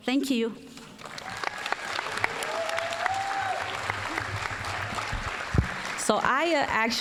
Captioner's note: applause, cheering